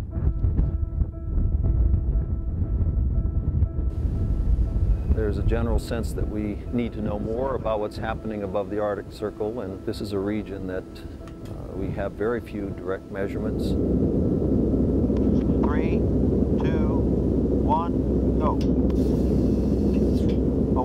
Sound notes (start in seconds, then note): 13.5 engine Sounds; 18.6 engine Sounds